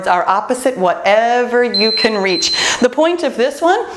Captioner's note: timer beeps